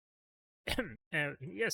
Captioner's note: coughs